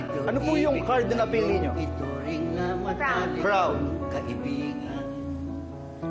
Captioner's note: none